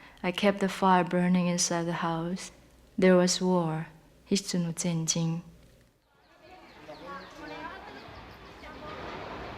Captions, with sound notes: I kept the fire burning inside the house. There was war. [switches to Taiwanese]